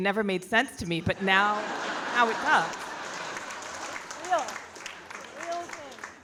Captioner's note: audience laughing